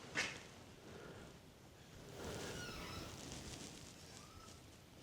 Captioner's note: door creaking